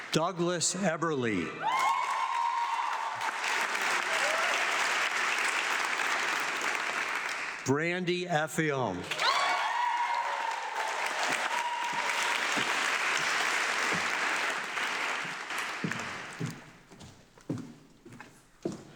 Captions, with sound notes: Douglas Eberly. (audience clapping) Brandi Efiom. (audience clapping)